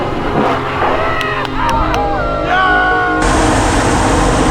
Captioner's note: cheers